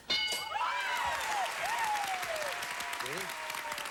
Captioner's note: audience applauding